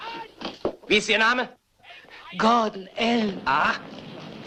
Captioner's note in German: seufzt